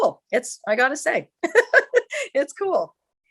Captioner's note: laughter